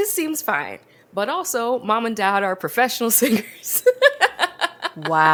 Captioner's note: laughs